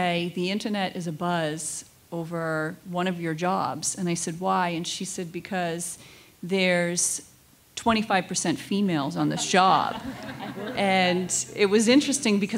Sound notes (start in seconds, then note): 9.4 everyone laughs